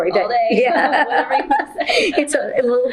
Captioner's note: laughter